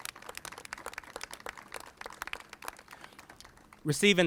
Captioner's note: applauses